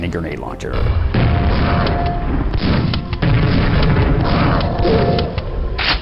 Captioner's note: explosions